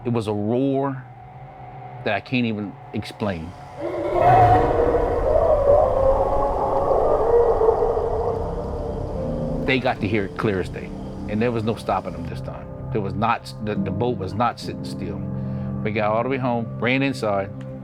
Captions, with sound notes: It was a roar that I can't even explain. (crickets chirping) (Rougarou roaring) They got to hear it clear as day, and there was no stopping them this time. The boat was not sitting still. We got all the way home, ran inside,